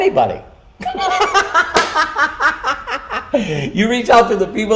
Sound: laughing

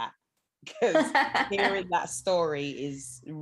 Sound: laughs

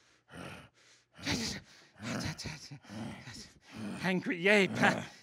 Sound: panting; stuttering

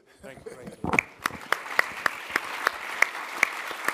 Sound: applause

